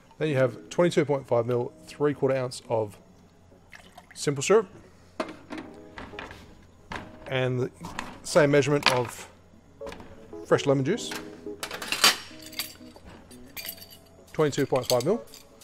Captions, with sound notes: Then you have 22.5 ml, three quarter ounce of simple syrup. And the same measurement of fresh lemon juice. (metal clanging) 22.5 ml.